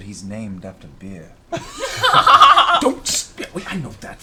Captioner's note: laughter